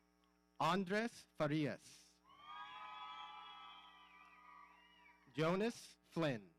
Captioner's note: audience cheering